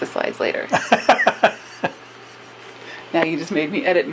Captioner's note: laughs